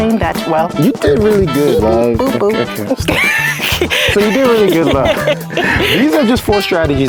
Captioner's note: laughing